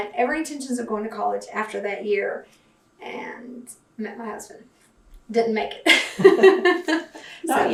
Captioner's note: laughs